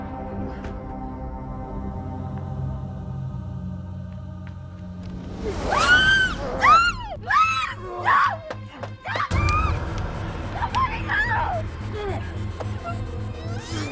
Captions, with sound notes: (person screaming) - Somebody help!